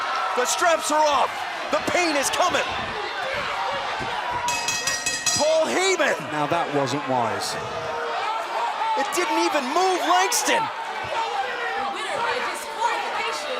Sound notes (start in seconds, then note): 4.5 bell ringing